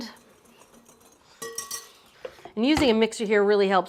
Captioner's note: whisk tapping